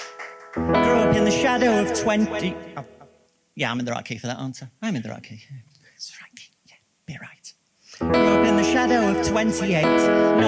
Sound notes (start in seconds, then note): 5.9 whispering